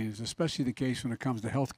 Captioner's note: none